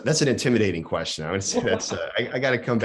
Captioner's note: laughs